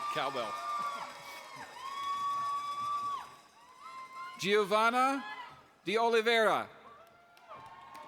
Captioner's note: applause